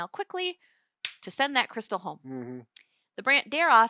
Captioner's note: hands smack